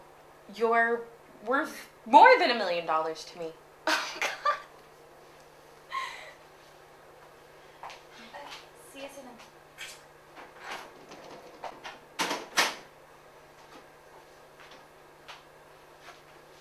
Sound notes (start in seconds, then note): 3.9 laughing; 7.8 footsteps; 9.8 kiss sound; 12.2 door opening and closing